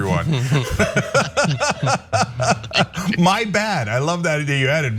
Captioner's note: laugh